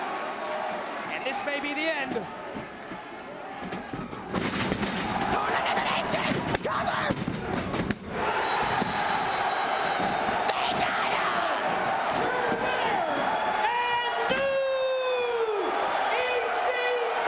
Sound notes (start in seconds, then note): 8.4 bell rings; 8.6 crowd cheering